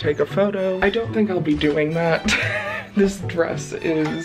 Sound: laughs

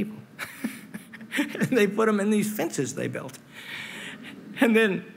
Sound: laughs

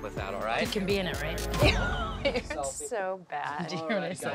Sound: laugh

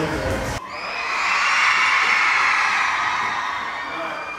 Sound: crowd cheering

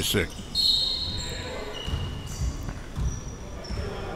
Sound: whistle

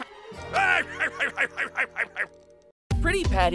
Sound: laughing

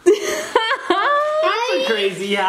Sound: laughing

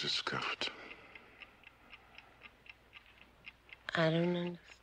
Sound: clock ticking

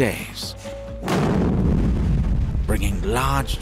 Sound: explosion booms

